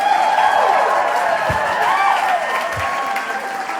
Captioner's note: applause/hooting continues